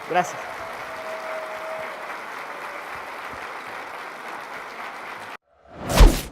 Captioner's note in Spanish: Aplaudindo